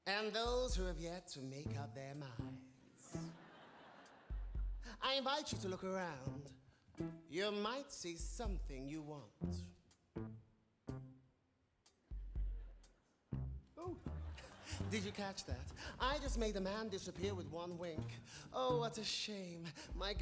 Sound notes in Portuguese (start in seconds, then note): 2.9 audience laughing